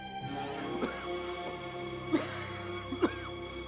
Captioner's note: coughing